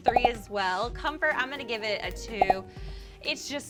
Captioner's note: popping; popping